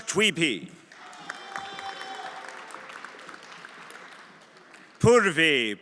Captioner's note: everyone applauding